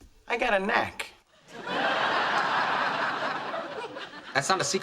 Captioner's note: audience laughs